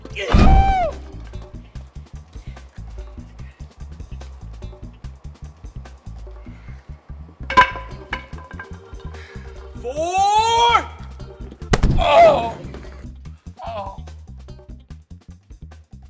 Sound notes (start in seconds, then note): 0.0 baseball bat thudding; 0.1 Strung Out yelps; 7.5 baseball bat clatters; 11.7 gold club thuds